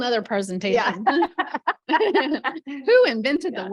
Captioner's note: laughter